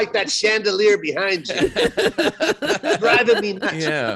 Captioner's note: laughing